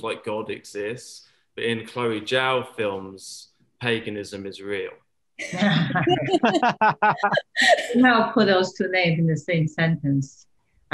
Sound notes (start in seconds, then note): 5.4 laughter